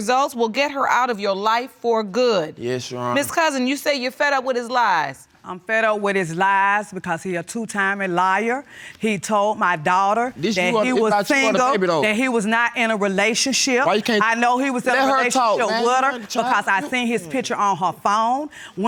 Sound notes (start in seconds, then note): 8.8 interrupting